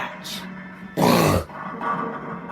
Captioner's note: huge snort